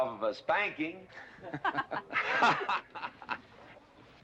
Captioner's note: laughter